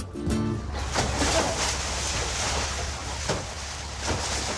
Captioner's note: water splashing